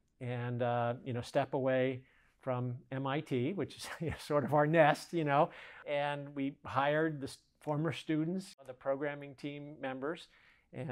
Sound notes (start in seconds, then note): 3.8 giggles